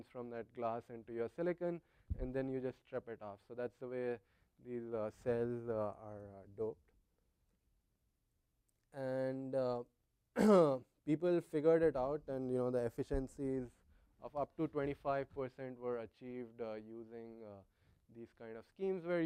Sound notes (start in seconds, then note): 10.3 cough